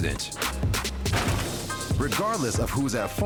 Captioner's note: crash